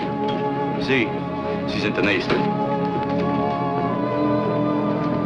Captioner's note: German